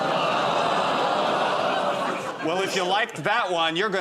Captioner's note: audience groans